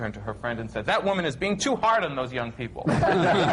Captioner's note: laughter